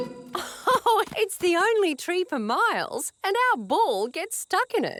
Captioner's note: laughs